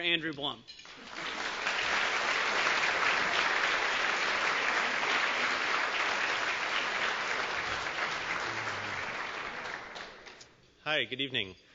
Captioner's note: applause